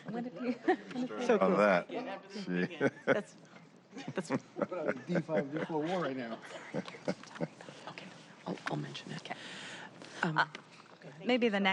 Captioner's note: laughter